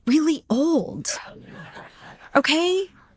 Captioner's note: audience laughing